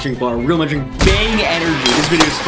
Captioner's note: glass shattering